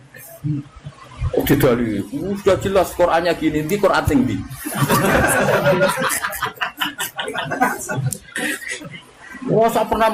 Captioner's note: laughs